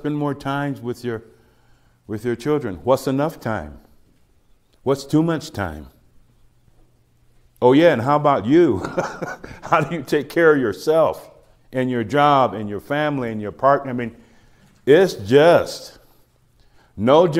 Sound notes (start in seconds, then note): 8.7 laughs